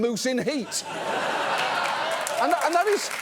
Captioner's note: audience laughs, applauds